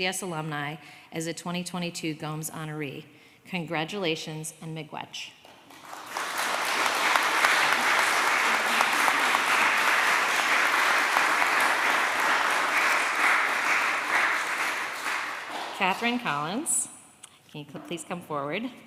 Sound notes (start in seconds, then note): 5.6 applause